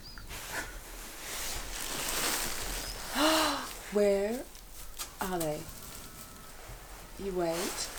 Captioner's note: gasp